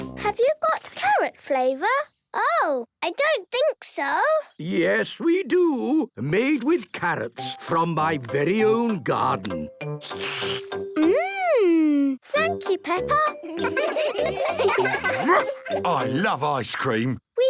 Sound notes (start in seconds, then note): 10.0 slurps